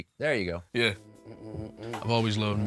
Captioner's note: humming